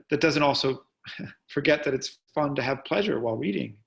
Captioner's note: chuckles